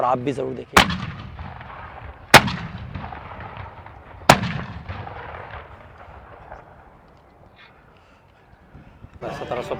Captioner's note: cannon fires